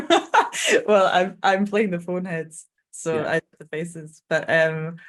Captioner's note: laughing